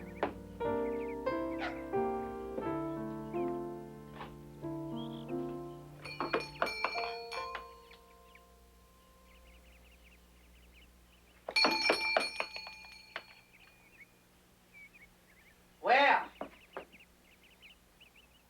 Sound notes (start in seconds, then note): 1.5 dog barking; 6.0 bell ringing